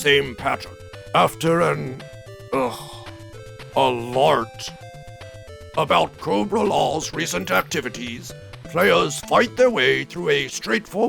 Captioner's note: sighs